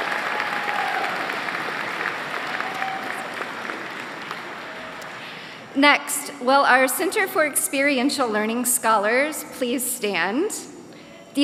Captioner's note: applause